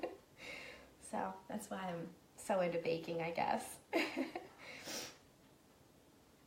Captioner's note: laughing